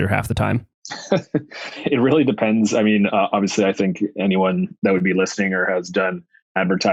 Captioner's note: laughs